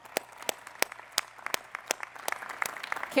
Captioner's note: applause